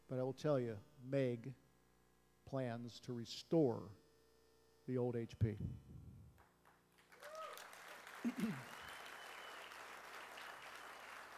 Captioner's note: applause